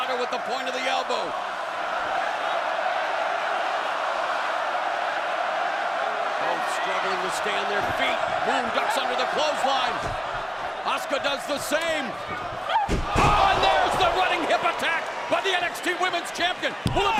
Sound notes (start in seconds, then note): 2.7 crowd cheering